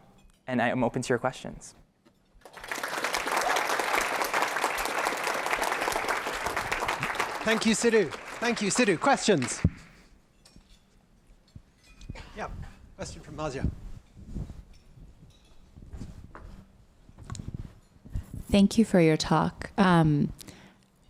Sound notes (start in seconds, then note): 2.4 applause